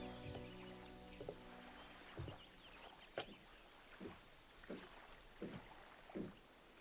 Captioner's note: birds chirping; water lapping